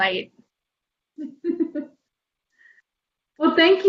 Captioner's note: laughter